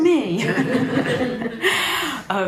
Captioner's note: audience laughing